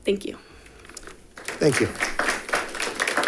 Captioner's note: audience clapping